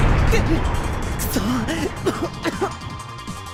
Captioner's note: cough